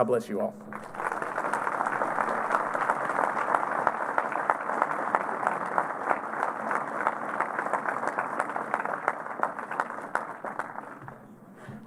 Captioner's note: applause